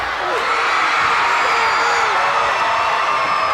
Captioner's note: crowd cheers